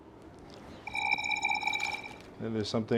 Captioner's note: recorder chirping